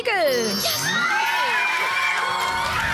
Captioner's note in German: Lauter Jubel